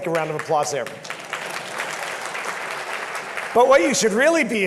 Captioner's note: audience claps